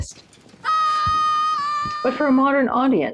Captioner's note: screams